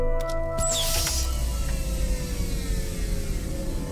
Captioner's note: hatch whirring